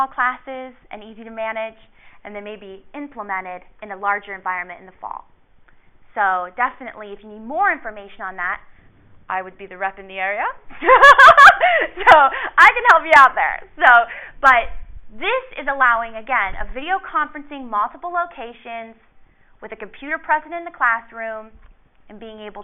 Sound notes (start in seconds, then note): 10.8 laughs